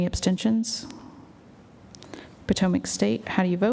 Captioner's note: silence